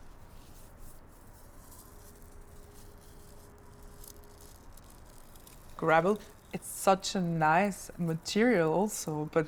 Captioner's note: rustling